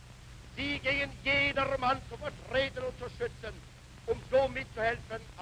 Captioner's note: Hitler speaking German